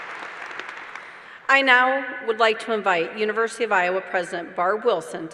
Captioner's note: applause